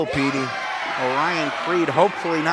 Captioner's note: crowd cheers